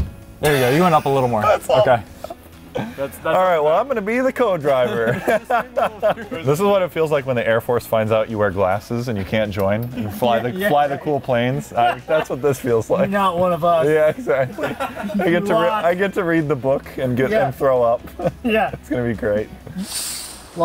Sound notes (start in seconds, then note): 4.7 laughing; 13.4 laughing